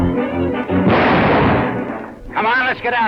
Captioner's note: rifle fires; gun fires